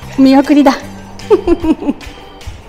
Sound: laughs

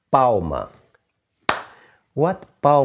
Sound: clap

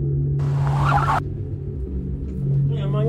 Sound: tires squealing

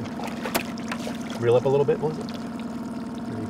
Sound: fish splashing

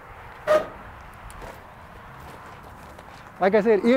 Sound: hood screeching

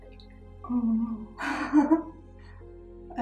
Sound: laughter

